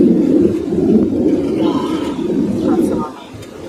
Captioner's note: sighing